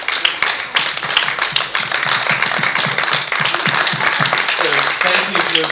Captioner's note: audience applauding